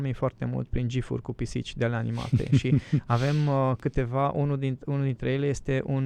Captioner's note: snoring